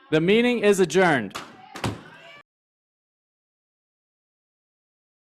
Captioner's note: gavel taps